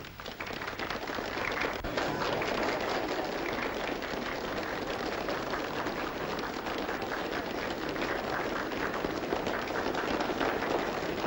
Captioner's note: applause